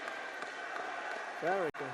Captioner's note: applause